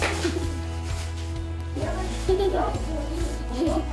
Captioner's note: shy giggling